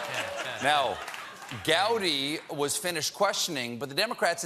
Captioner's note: laughter